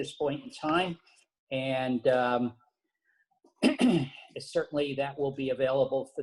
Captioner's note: cough